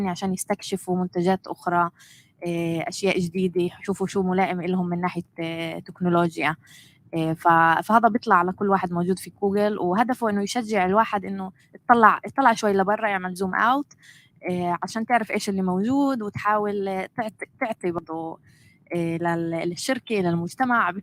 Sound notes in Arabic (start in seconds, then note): 13.5 لغة أجنبية